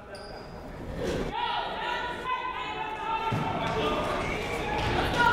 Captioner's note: people shouting in the crowd